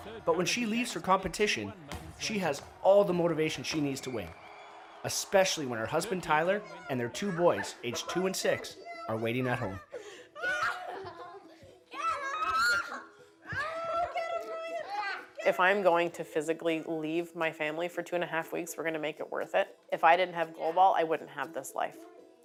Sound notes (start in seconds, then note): 10.3 laughing and screaming